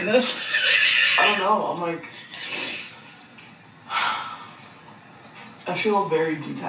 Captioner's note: laughs; sighs